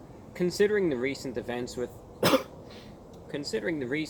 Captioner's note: cough